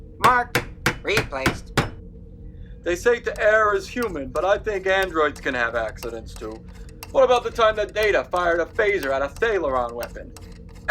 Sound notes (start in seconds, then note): 0.2 hammering; 5.3 screwdriver sounds